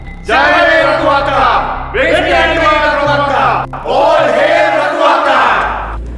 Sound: trilingual cheering

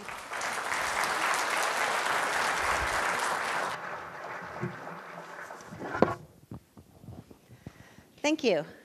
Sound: applause

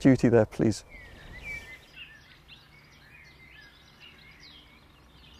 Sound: birds chirping

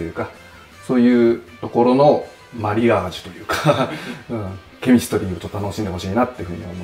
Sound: laughing

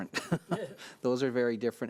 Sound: laughing

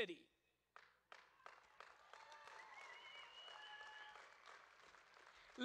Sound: audience claps and cheers

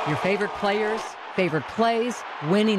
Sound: cheering

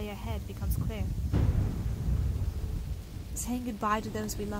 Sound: thunder

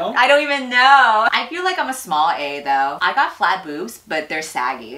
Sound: none

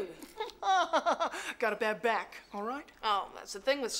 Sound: laughs

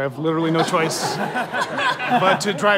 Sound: dismissive laughter

